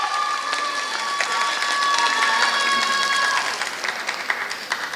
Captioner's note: applause